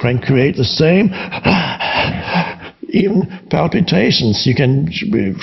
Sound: breaths heavy

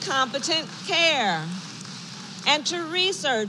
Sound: applause

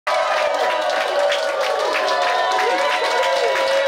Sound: crowd cheering

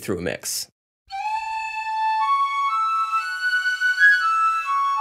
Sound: whistles blow

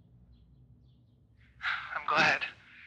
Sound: JUSTIN, sighs

